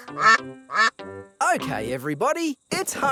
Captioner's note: quacking